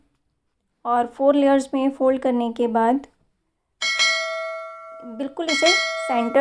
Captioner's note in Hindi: घंटी की आवाज़